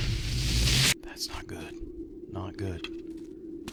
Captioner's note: whispers